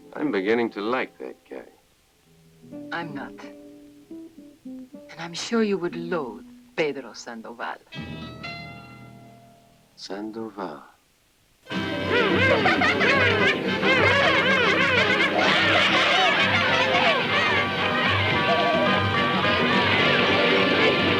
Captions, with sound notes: - I'm beginning to like that guy. - I'm not. And I'm sure you would loathe Pedro Sandoval. (tense music) - Sandoval? (bright music) (children laughing)